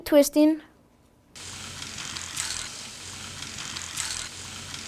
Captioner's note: propeller whirring